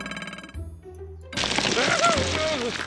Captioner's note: grunts